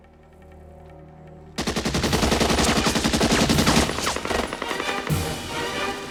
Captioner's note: machine Gun Fire